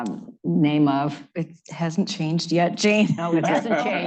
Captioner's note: laughter